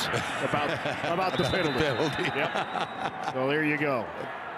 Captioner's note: chuckles